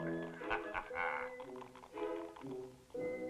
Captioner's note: laughing